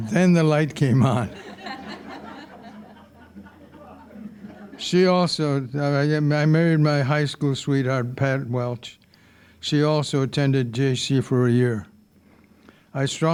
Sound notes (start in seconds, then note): 0.0 audience laughing; 1.2 all laughing